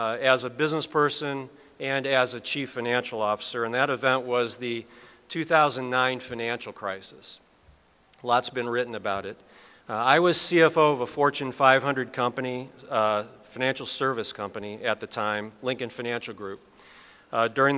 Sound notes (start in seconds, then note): none